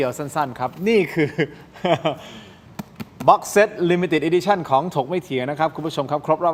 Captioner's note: laughter